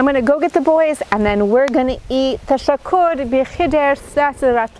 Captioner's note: speaking in foreign language